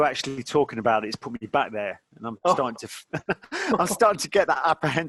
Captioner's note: laughing